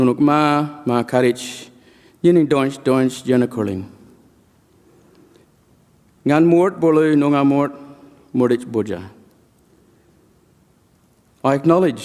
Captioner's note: speaks in language